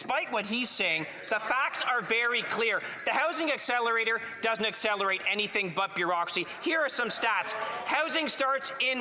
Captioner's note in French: voix de l'interprète